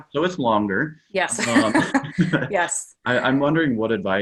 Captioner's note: laughing